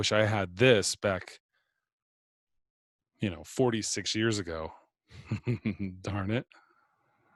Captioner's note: laugh